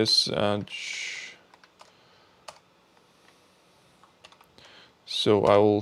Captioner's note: keyboard clicking